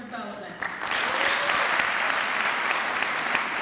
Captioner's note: clapping